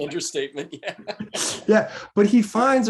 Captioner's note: laughing